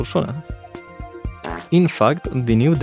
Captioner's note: fart sound